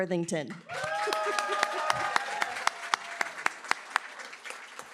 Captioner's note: cheering, applause